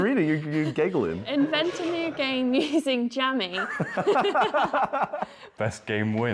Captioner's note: laughter